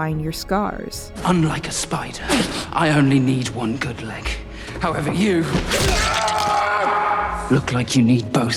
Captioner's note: man screaming